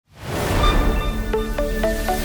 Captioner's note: air whooshes; gentle digital music